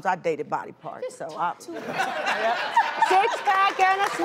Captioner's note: audience laughing